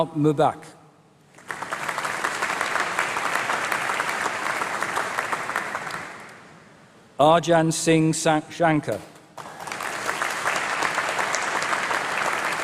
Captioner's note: applause